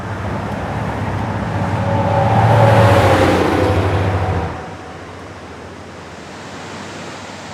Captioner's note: trucks going over the highway above